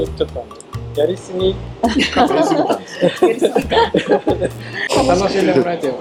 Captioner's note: laughs